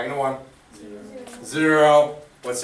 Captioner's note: voiceover